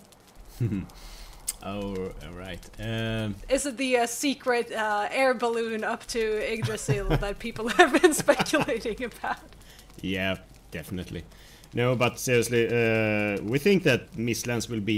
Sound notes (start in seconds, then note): 0.4 chuckles; 9.2 laughs